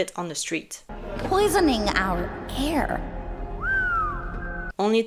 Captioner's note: whistle